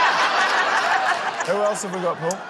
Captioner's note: laughter